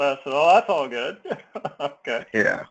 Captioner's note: laugh